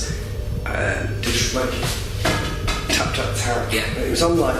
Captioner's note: tapping